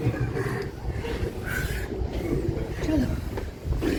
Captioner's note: deep breaths